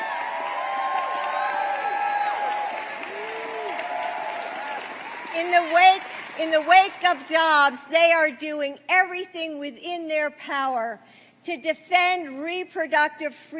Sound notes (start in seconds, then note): 8.0 applause